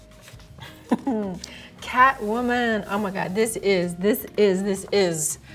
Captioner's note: chuckles